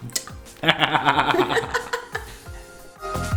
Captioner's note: evil laugh